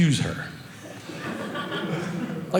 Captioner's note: audience laughing